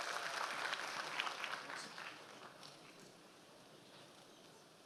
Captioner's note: audience applause